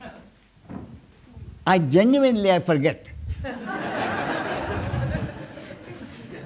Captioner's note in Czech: smích